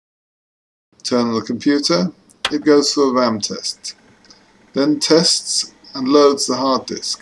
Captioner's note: click